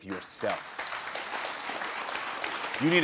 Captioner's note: audience applauding